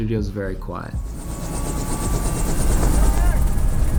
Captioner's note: helicopter engine revving